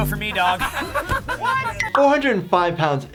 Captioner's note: group laughing